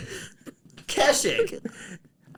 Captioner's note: mocking